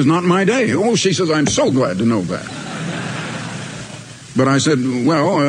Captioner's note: audience laughter